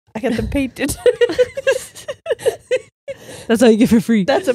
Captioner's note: all laughing